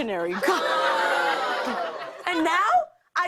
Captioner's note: audience groans